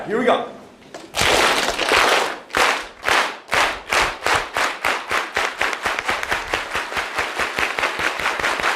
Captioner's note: unity clap